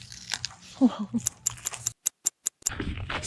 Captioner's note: carrot crunches; clock ticks